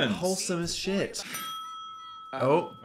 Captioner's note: phone rings